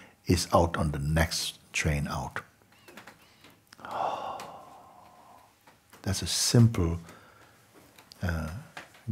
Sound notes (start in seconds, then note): 3.7 exhales